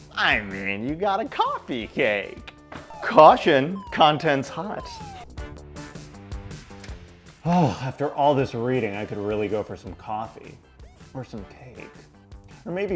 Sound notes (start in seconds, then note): 2.8 siren sounds